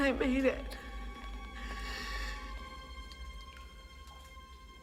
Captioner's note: inhales